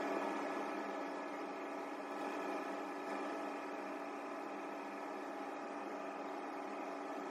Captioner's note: mixing sounds